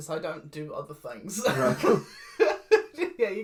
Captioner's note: laughs